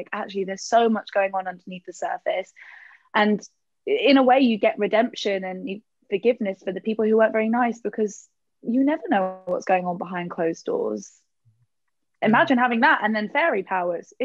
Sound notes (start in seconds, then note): none